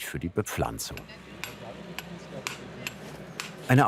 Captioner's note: distant conversation, hammering